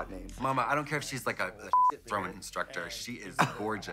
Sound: beep

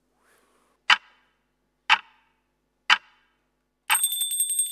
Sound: clock ticks; doorbell rings

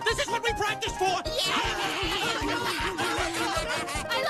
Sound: all 3 cheer

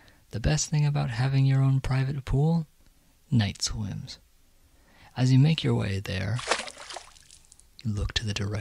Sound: pool splash

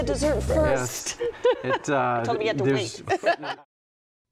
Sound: laughs

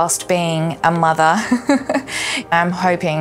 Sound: laughs

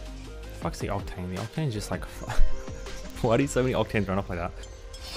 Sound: laughs

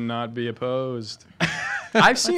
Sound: laughing

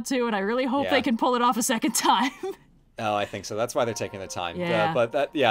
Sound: laughs

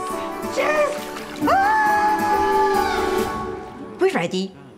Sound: screams

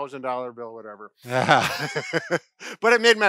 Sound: chuckle

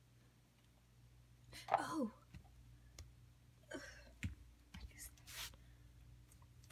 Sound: gasp

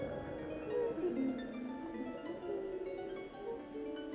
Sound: מזמזם דולפין

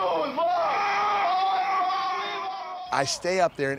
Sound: howls; all shouting

